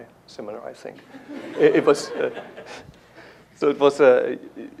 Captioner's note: laughter